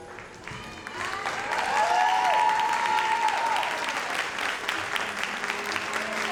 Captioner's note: audience cheers and applauds